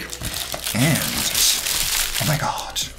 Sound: wrapper crackles

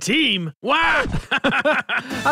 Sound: laughs

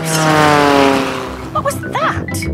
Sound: plane flies

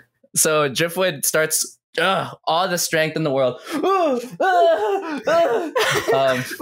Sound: grunts; grunt yells from exertion

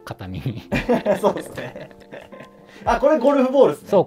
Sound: laughing

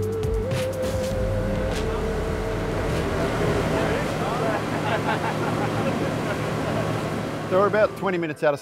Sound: sound of outboard motor

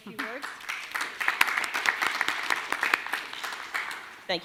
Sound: clapping

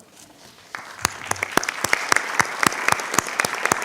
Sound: clapping

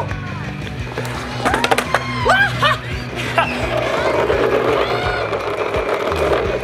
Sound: upbeat music; whooping

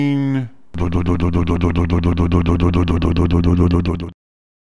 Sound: motor sound

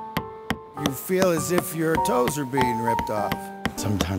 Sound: hammer pounding

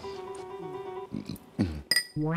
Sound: burping

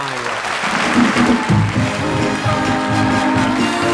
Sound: crowd applauds

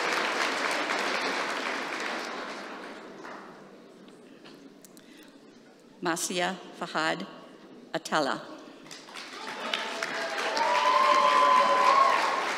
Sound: applause

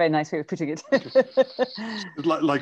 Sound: laughs

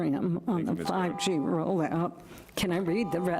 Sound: beep

